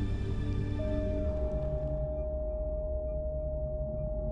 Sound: machine flatlines

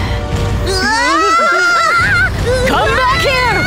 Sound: all scream

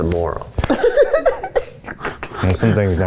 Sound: laughing

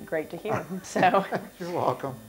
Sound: laughing

